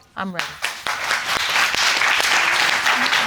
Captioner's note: audience clapping